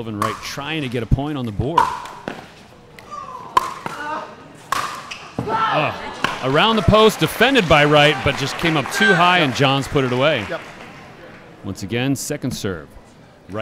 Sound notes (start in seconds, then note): 1.4 ball bouncing; 4.4 shouting